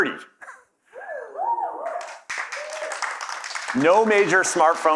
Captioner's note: applause